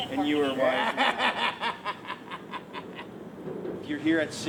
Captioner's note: laughing